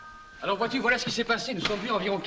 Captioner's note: speaking french